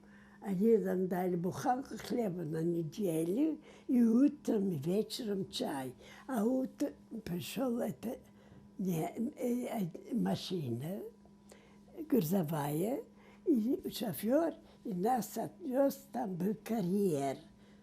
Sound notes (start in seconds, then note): 9.1 mumbling